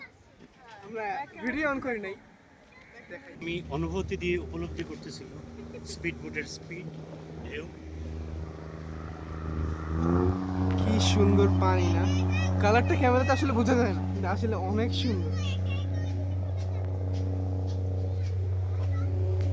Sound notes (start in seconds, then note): 11.5 vroooooooooooom; 15.2 kid in the back yapping